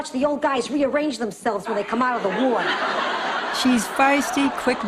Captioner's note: laughs